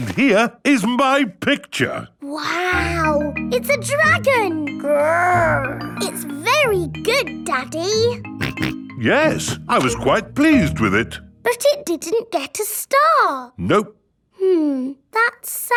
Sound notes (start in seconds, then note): 8.4 snorts